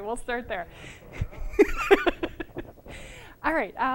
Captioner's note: laughter